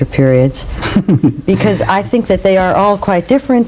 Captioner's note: laughter